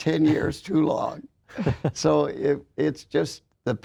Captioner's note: laughs